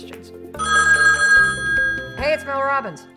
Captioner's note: phone rings